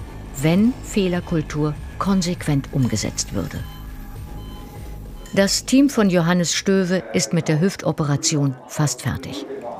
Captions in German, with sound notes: Wenn Fehlerkultur konsequent umgesetzt würde. (Pieptöne eines Geräts) Das Team von Johannes Stöve ist mit der Hüftoperation fast fertig.